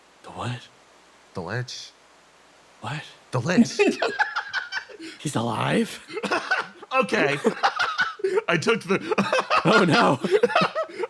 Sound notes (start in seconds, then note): 3.5 laughs; 7.5 laugh; 9.2 laughs